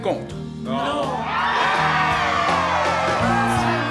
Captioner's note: exuberant cheering